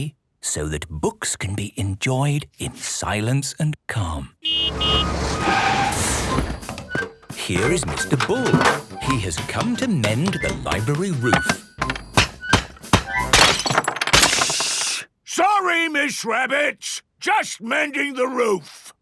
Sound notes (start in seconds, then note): 4.4 honking, engine revving; 11.6 banging, crashing